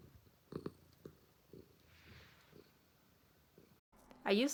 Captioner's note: purr